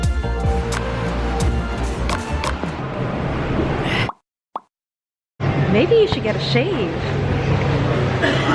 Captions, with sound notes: (traffic passing) Maybe you should get a shave.